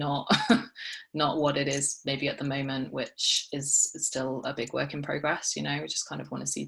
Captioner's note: she chuckles